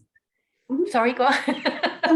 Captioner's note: laughs